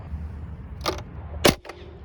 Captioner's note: launcher firing